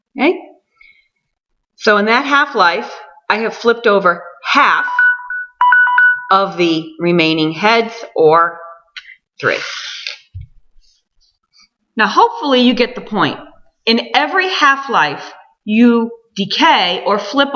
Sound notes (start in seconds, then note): 4.6 alarm goes off